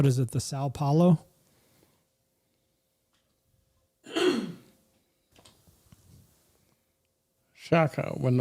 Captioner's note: clears throat